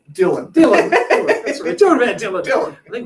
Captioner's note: laughing